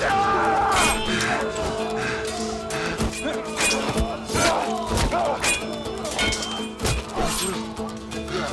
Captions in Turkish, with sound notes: Aaa! (Kılıç sesleri) Ertuğrul.